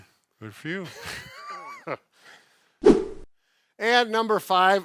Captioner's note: both laughing